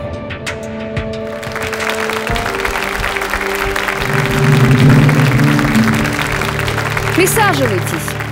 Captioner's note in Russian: Аплодисменты